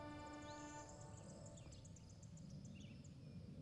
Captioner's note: birds chirping